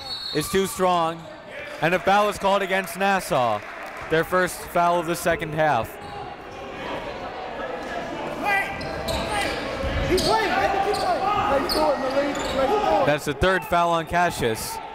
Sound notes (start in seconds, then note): 0.0 whistle blows; 7.4 coaches yelling; 7.4 crowd talking